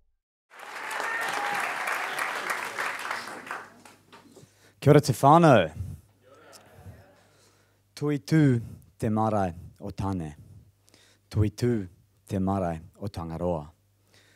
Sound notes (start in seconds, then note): 0.5 applauding